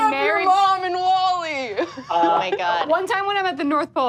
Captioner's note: laughs